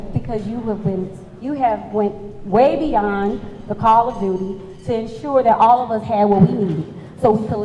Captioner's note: none